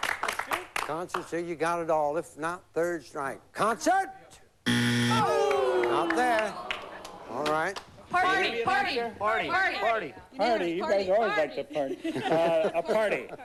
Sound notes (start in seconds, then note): 4.6 buzz